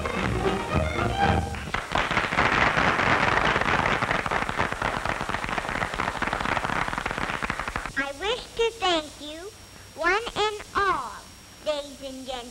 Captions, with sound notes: [applause] I wish to thank you one and all, ladies and gentleman,